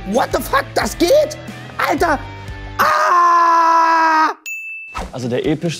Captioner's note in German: Klingeln